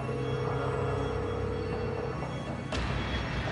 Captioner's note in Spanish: La otra línea timbra